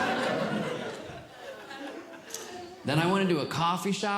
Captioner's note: audience Laughing